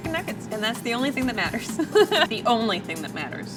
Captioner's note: laughs